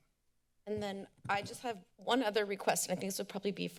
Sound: rustling sound

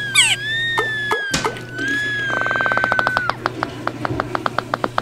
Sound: screaming; sputtering, farting

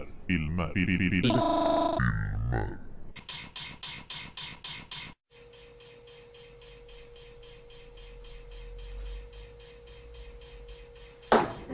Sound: glitches

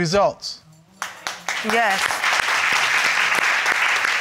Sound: audience applauds

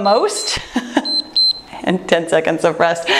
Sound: laughs; timer beeps

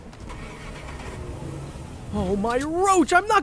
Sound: engine revving

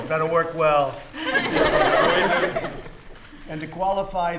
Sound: laughter

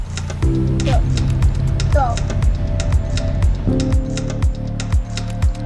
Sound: blabbering

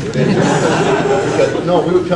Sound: audience laughs

